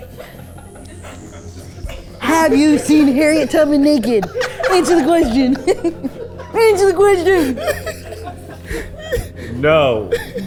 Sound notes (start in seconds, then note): 0.3 tense music; 7.6 everyone laughing